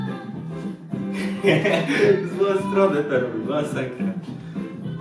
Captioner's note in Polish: śmiech